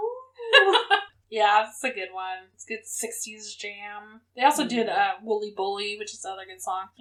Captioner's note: laughs